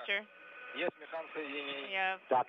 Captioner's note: russian transmission